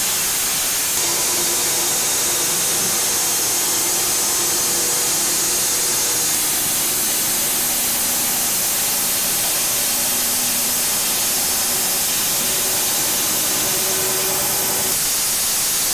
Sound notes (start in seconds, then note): none